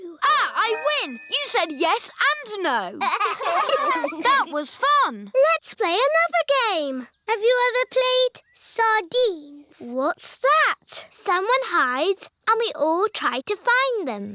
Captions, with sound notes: Ah, I win! You said "yes" and "no"! (LAUGHTER) That was fun. Let's play another game. Have you ever played Sardines? What's that? Someone hides, and we all try to find them.